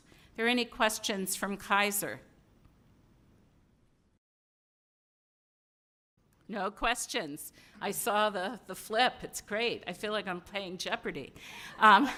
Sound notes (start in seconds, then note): 2.4 silence